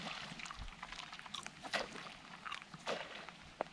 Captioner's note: fish splashing; rod whipping; fish splashing